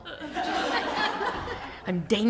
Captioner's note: laughter